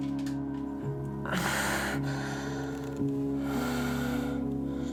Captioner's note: Jan moaning